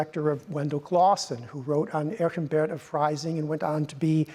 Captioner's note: speaks in Latin